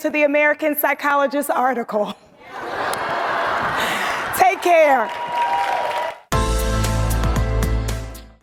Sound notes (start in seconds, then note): 2.4 audience laughing; 5.6 audience cheering; 6.8 light ambient music